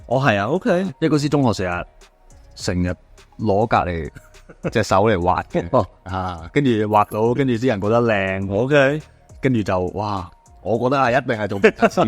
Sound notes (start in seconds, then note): 4.1 haha